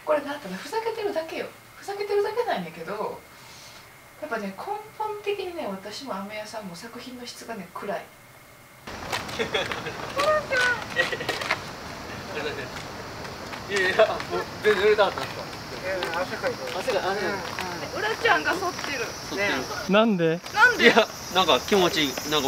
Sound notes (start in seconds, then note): 9.3 laughter